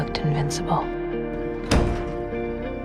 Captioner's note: voiceover; door closes